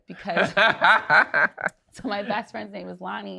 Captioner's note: laughs